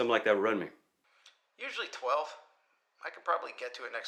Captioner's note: Marco On Phone